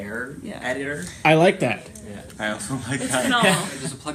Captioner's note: laughing